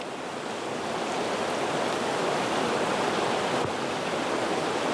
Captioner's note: rushing water